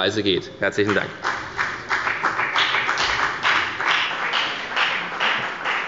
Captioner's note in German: Beifall bei der FDP